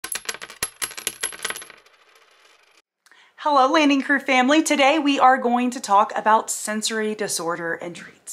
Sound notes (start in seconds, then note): 0.0 coin dropping